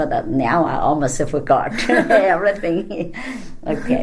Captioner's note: all laugh